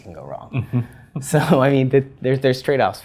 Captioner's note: laugh